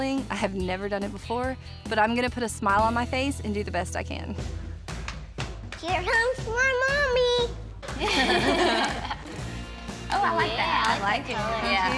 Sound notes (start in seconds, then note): 4.5 footsteps; 7.9 both chuckling